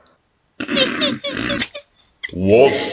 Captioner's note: both giggle like children